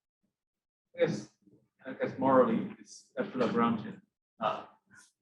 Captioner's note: murmurs